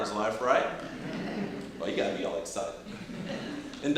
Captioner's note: audience chuckling